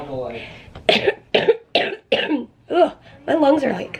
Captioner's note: coughing